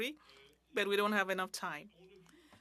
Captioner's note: speaking French